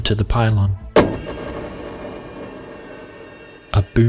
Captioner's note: boom and ringing